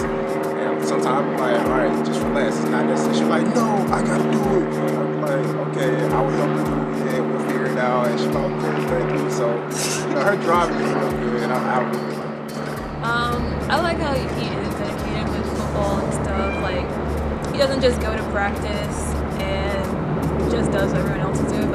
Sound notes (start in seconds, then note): 12.4 laughs